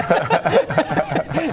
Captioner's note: salty laughter